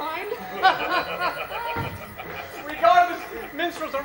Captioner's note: John and Will laugh